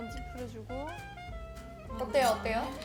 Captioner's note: scrunching hard